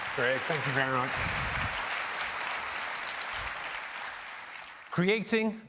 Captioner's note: applause